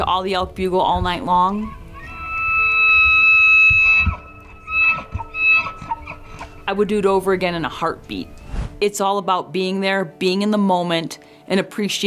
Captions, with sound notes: climbing, listening to all the elk bugle all night long. [elk bugling] I would do it over again in a heartbeat.